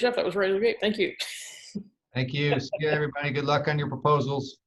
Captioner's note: laughs